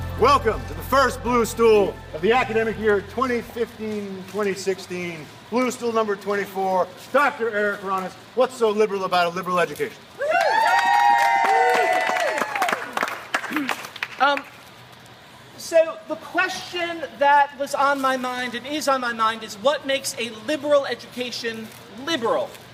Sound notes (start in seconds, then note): 10.2 applause and cheering